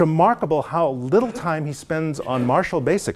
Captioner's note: cough